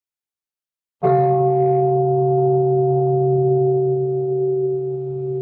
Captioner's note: bell